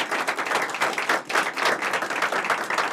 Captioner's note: applause